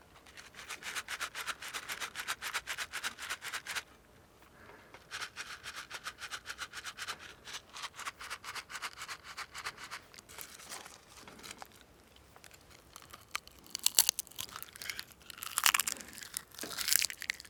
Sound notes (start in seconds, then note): 0.1 container rattling; 5.1 container rattling; 14.5 food crunching